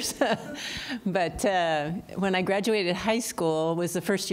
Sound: laughter

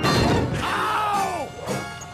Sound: bang

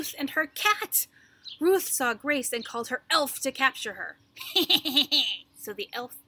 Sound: laughing

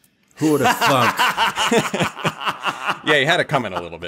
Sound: chuckles

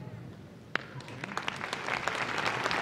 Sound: applause

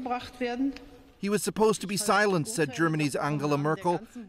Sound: speaking Foreign Language

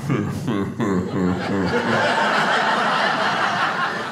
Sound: mimicking slow-motion laugh; audience laughing

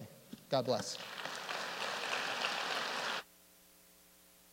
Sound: applause

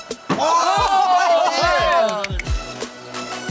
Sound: yelling and laughing; electronic music; clapping

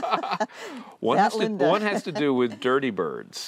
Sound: laughter

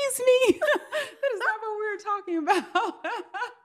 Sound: laughs

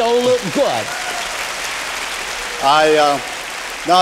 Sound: applause

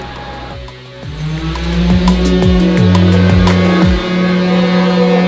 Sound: machine buzzing

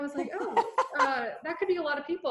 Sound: laughs

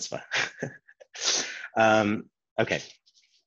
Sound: laughs

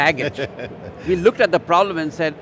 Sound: laughs

